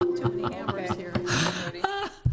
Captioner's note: people chattering; woman laughing